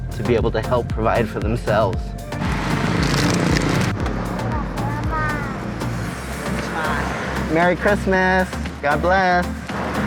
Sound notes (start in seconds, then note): 2.3 car engines revving; 5.1 child and man speaking in native language